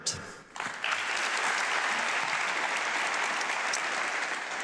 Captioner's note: audience clapping